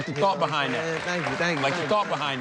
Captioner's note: audience applauding